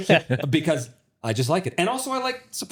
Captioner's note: laughing